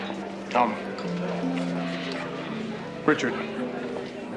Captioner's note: munching